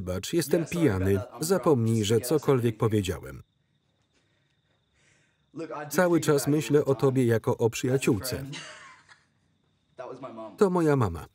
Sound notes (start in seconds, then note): 8.4 laughter